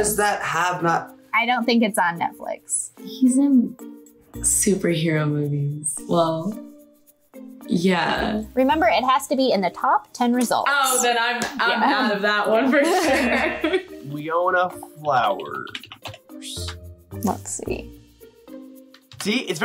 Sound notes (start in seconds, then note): 12.7 laughs